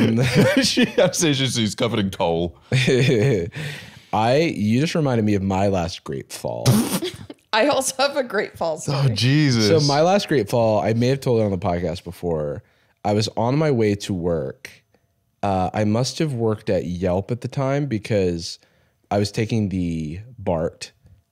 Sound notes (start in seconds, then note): 2.7 chuckles